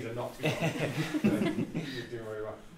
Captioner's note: all chuckle